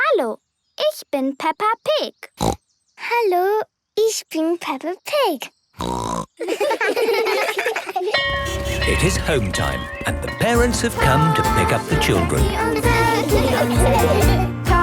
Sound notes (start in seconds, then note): 2.4 snorting; 5.8 snorting; 6.4 laughter; 8.1 bell clanging; 14.6 singing in German